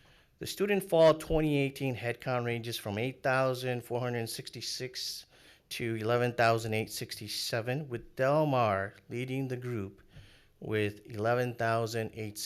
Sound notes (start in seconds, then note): none